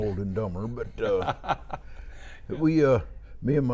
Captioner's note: laughing